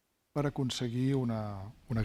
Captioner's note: speaking spanish